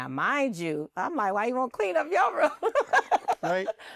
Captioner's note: laughs